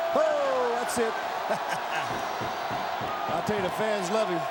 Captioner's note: cackles